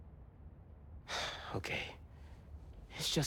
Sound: sigh

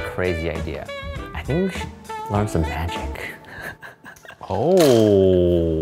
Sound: laughing

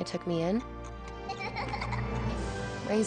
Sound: Baby Peach laughs adorably

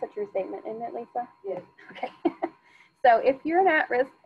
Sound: laughs

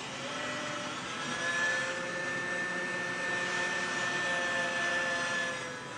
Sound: grinder whirring

